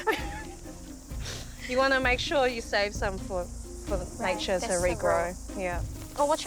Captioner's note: laughter